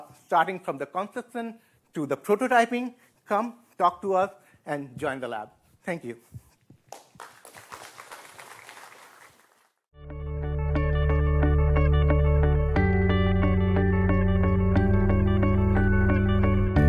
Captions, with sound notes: starting from the constant to the prototyping come talk to us and join the lab. Thank you (round of applause) (upbeat music)